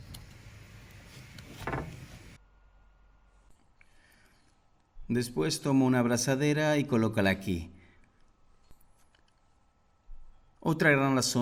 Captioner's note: Se detiene el sonido